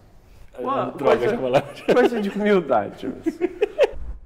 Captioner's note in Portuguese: risos